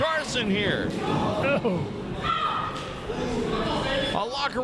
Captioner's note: crowd yells